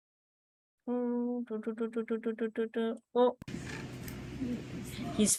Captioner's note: humming